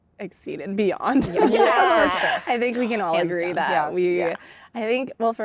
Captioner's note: laughter